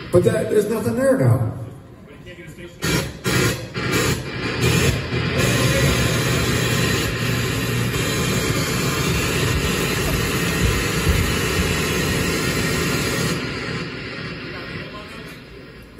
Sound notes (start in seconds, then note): 2.7 more radio static